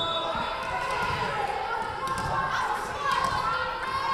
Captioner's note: whistle blowing